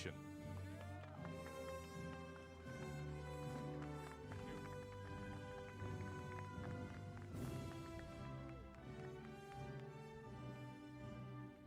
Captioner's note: applause